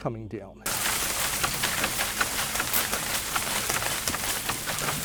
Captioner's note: tree rattling